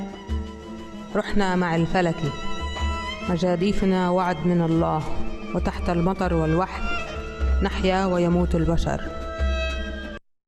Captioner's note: reading in Arabic